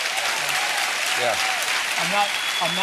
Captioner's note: applause